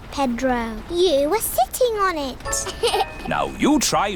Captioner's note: laughs